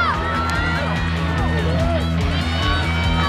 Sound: cheering

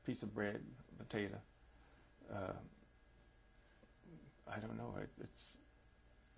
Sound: pauses for 3 seconds

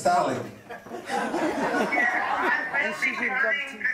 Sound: congregation laughing

